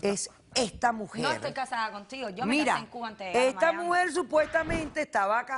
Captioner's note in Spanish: Hablan al unísono